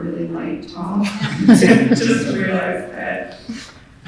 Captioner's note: all chuckling